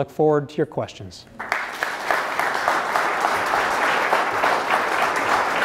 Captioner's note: applause